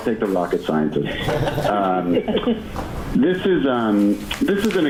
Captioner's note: laughing